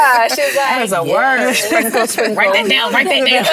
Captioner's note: laughter